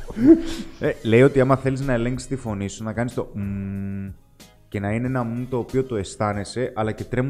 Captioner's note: hmmm